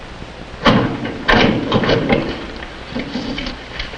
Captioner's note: locker opening